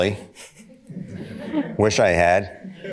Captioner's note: audience laughter